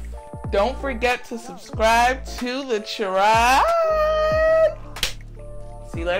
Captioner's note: claps